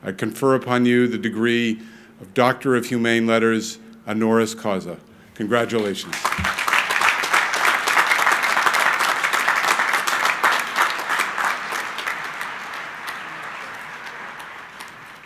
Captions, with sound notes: I confer upon you the degree of Doctor of Humane Letters, honoris causa. Congratulations. (crowd applauding)